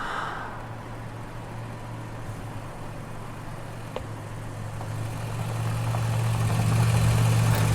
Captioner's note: car approaching